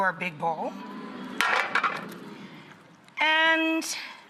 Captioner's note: audience oohs in excitement